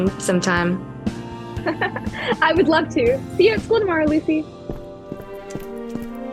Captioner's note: laughs